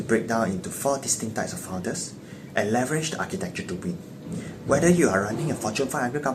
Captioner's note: slip